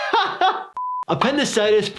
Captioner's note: laughing; screen beeps